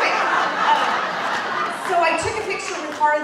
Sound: audience laughing

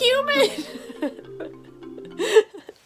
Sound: laughing

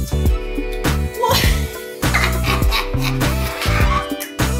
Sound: mom laughs

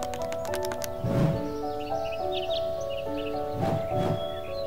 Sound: birds chirping; piano solo

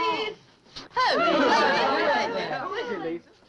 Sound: all chattering

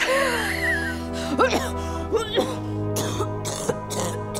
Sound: laughs; coughing

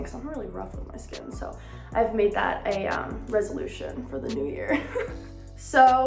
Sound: chuckles

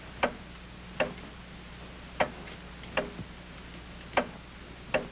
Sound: clock ticking

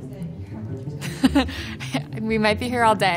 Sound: laughing

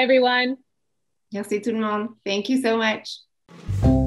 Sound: speaking French

